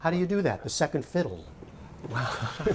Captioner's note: laughter